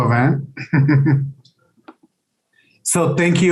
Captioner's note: chuckles